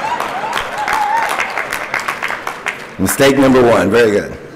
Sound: applause

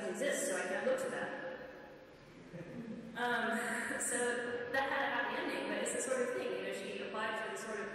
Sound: laughs

